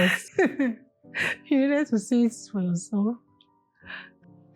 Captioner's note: chuckles